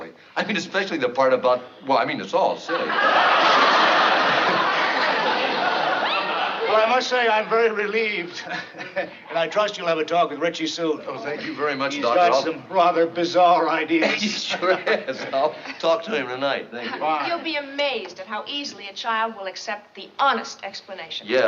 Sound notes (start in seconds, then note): 2.7 laughs; 8.2 chuckles